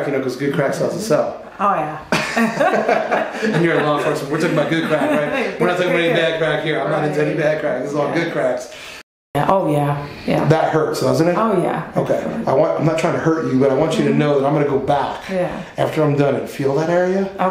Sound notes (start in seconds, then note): 2.1 both laughing